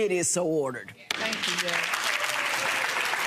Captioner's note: audience applause